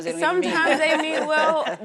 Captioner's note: laughing